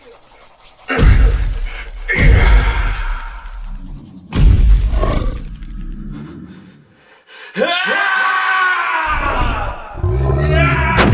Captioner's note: battle noises